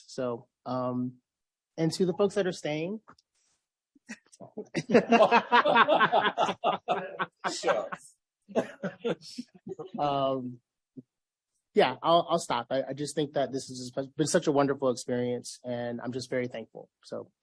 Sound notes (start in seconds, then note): 4.5 laughs; 4.5 laughter